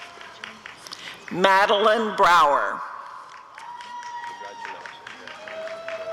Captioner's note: applause and cheering